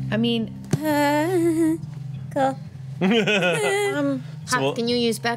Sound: whimpers

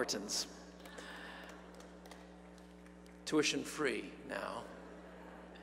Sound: applause

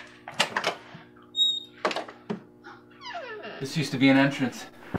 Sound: creaking

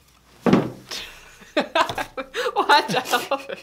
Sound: laughing

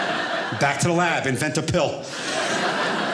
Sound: audience laughing

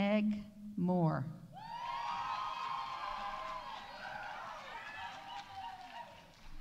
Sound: audience cheering; audience applauding

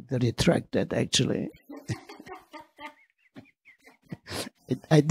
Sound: laughing

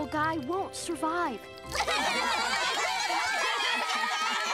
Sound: crying

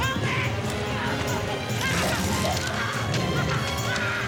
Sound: screaming

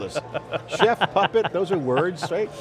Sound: laughing

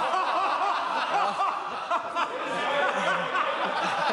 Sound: members laugh

